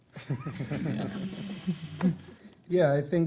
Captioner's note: everyone laughs